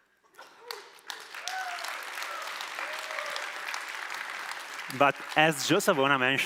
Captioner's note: applause